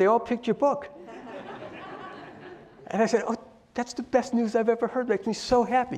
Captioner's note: laugh